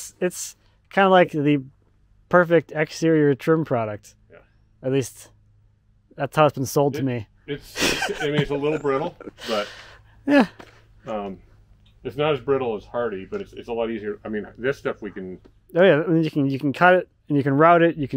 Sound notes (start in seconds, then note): 7.6 laughs